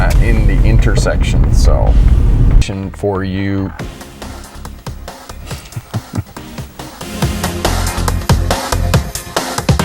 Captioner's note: laughing